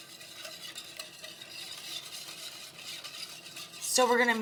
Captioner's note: whisk scraping